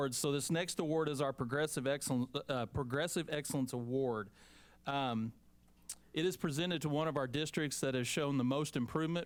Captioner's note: none